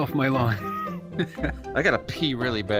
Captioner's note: laughing